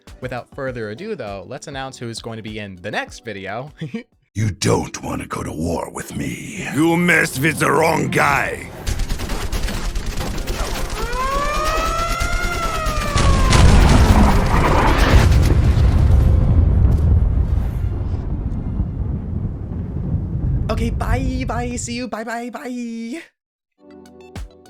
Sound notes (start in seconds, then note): 8.8 gunfire, Air-Raid sirens, bomb explosions